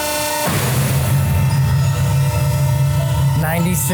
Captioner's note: metal thuds